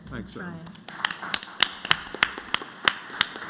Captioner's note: applause